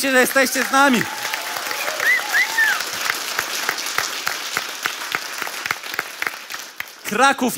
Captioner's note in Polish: oklaski publiczności